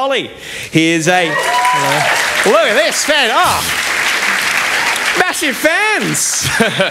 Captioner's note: applause